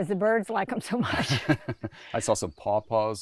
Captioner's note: laughs